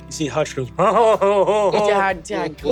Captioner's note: sobs